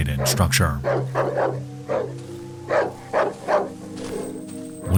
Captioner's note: dog barking